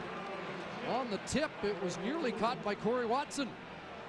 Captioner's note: applause and cheering